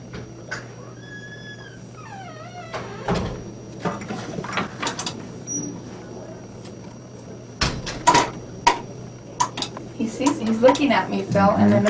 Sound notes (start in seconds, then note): 0.6 door creaking